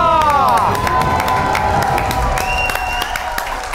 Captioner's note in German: Jubel, Applaus